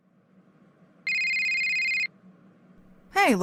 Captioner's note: phone ringing